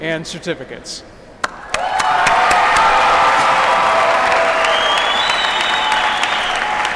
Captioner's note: applause